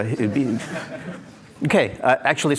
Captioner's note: laughter